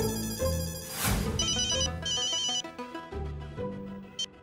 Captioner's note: phone ringing